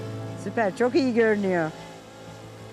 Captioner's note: speaking Turkish